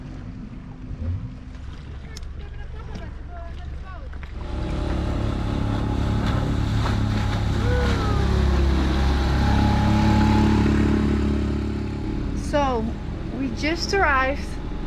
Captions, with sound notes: (dinghy engine roars) So we just arrived,